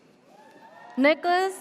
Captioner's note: audience cheers